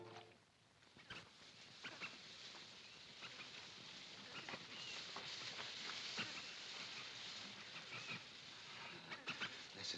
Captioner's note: grass rustling